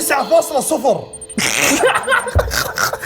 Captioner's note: laughing